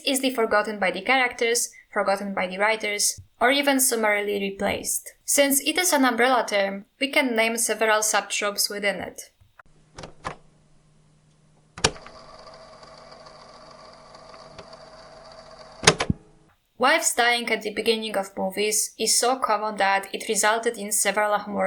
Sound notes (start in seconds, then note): 11.6 cassette sound